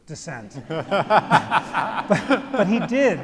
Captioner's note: all laugh